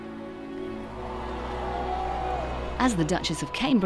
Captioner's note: crowd cheering